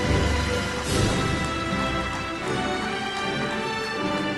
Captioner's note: applauding